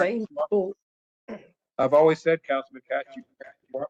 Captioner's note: cough